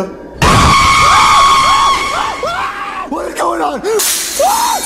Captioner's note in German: schreit